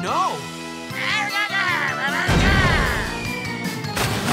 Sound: grunting

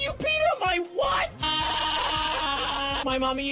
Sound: autotuned scream

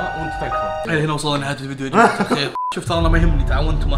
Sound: laughs

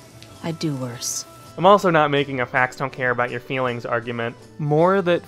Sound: Ben Shapiro voice

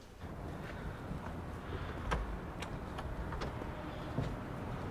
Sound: outdoor sounds

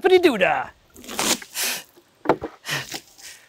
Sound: water splashes

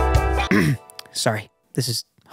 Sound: romantic music; clearing throat

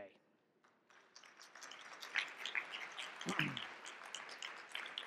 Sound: audience clapping

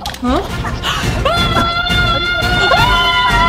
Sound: screaming

